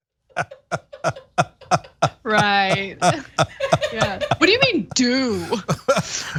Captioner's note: laugh